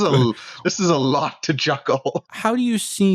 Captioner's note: laughter